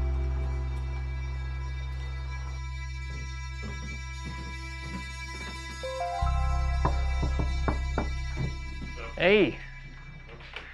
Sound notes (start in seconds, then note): 1.0 gentle suspenseful music; 6.8 knocks on door